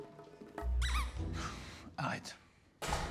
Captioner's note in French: couinement de jouet